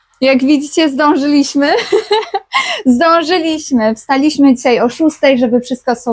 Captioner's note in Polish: śmiech